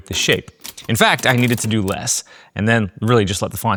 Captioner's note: keyboard clicking